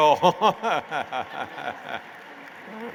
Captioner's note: laughter